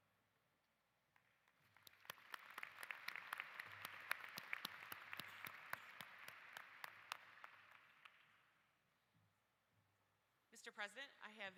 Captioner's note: applause